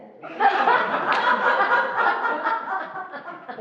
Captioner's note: laughing